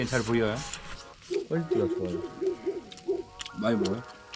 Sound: big dog shouts

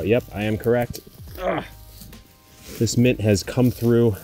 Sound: grunts

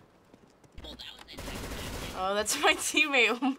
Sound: firing

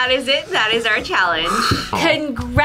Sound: sighs

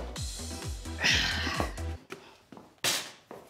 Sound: sighs

